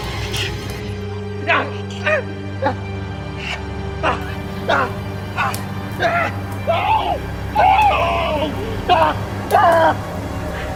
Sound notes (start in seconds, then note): 1.5 screams intensify